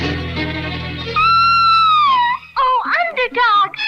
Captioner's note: Sweet Polly Purebred Screams